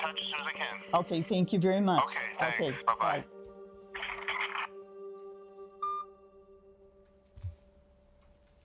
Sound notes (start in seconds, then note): 5.8 phone beeping